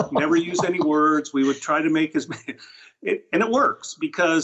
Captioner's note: laughs